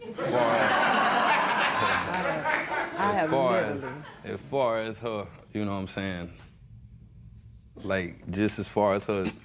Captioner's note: laughter